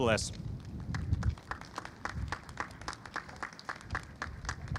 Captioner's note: audience applauds